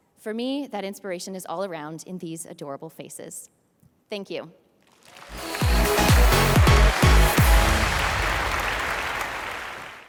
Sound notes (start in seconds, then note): 4.9 audience applauds; 5.2 upbeat music